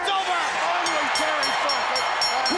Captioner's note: crowd cheering; bell ringing